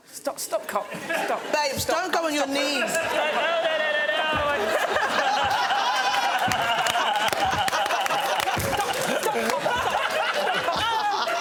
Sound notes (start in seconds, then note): 4.2 laughter